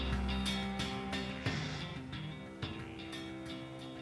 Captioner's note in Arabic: تنهدات